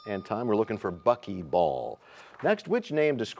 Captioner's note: bell rings, time expires